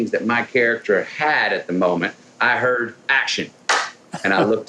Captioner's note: claps